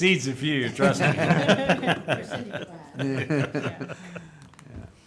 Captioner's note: group laughing